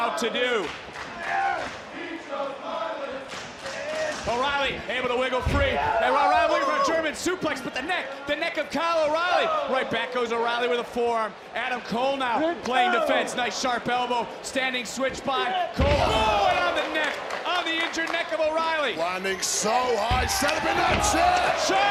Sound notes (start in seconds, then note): 1.2 audience chanting